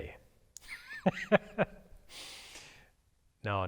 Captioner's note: laughs